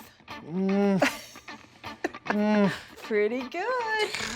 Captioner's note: laughing